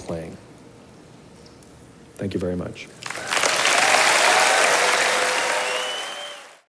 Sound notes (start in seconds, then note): 3.0 audience applauding; 3.0 观众鼓掌